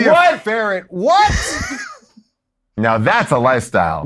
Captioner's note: laughs